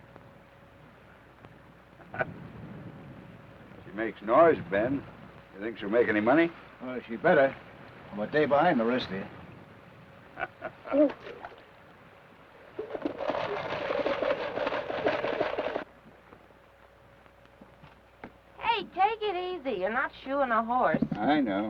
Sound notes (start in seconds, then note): 2.0 Theodore chuckles; 10.4 Theodore chuckles; 12.8 rocker box rattles